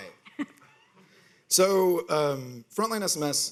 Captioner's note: people laughing